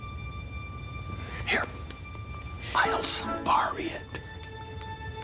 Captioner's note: whispering